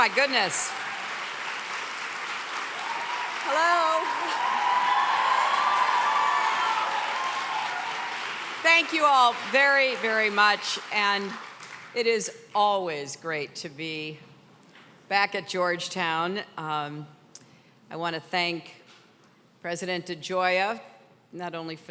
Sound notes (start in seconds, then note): 4.9 cheering intensifies